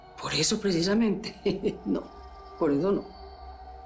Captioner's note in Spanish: Risas